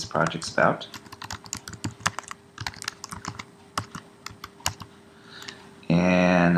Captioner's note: typing